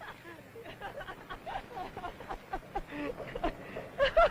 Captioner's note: Byron laughing